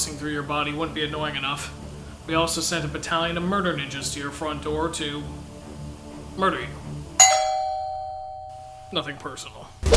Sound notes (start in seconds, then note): 7.2 doorbell